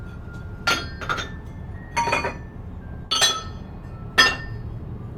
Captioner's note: metal rattling